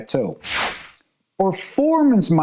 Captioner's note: transition whooshing